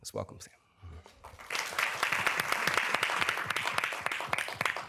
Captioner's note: applause